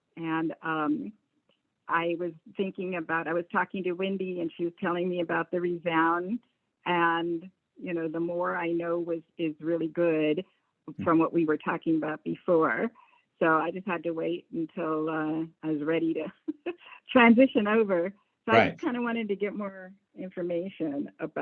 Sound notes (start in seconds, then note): 14.6 chuckles